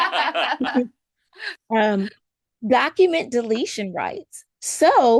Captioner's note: laughter